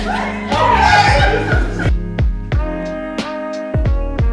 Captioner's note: laughing; soft music